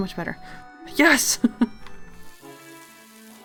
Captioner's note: laughs